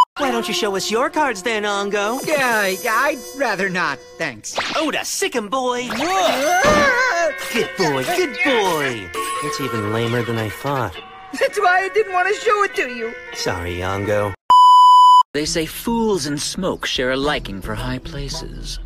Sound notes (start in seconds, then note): 5.9 distressed noises; 8.4 continued struggling noises; 14.5 static beep sound